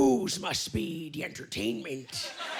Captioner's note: laughter